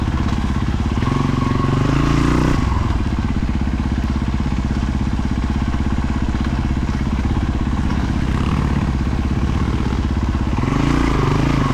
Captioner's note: engine revving